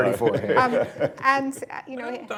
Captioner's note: laughter